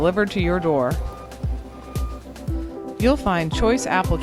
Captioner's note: gentle music; beeping